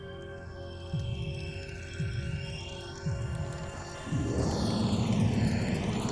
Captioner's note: eerie whooshing and crackling